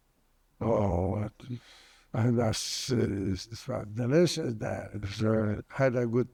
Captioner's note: mumbling